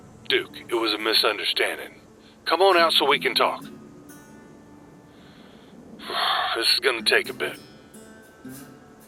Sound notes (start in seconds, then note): 6.0 sigh